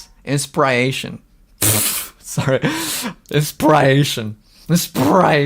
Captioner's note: laughs